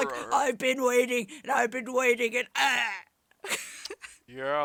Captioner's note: impersonating emperor